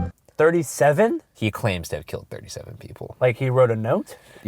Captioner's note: voiceover